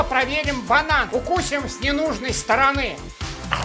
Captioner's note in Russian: Чавкающие звуки